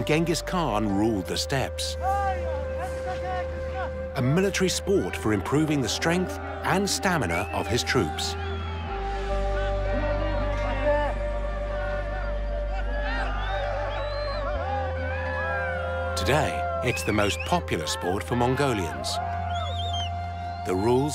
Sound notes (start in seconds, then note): 2.1 men shouting